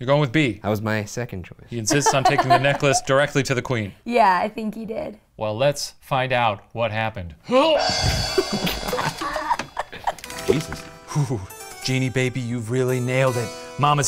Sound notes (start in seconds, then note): 1.9 laughs; 7.8 gong crashes; 8.1 both laughing